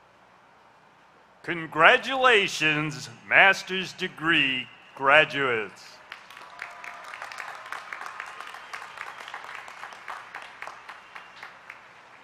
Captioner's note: applause